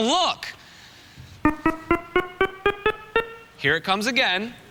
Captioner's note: beeping